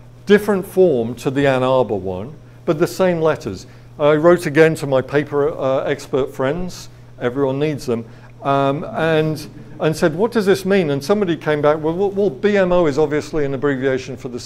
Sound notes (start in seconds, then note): 9.0 audience laughs